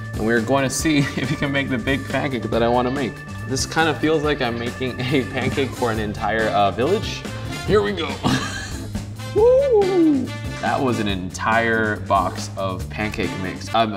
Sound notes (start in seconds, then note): 8.2 laughs